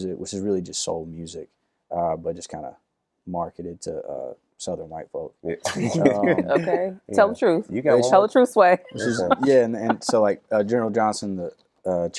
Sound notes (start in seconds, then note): 5.6 all laugh